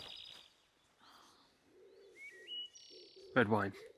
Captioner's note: birds chirping